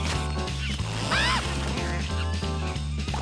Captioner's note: scream